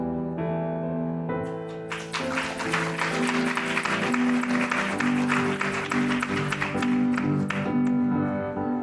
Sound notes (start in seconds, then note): 1.6 applause